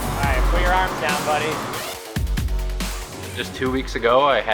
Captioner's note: crowd cheering